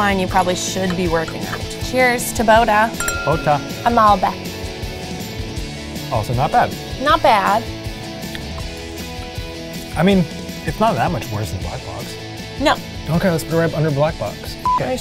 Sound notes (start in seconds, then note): 2.9 glasses clinking; 5.3 upbeat music; 14.7 beeps